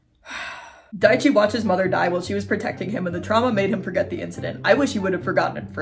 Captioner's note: sigh; the Director speaking quickly